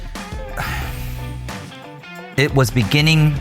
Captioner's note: sighs